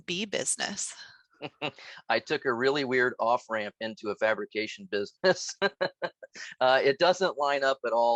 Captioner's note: laugh